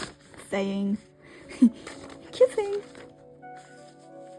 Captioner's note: laughs